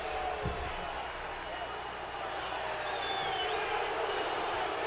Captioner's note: audience cheering